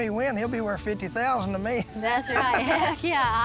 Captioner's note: laughs